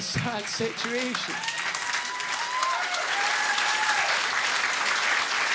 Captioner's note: audience laughing and clapping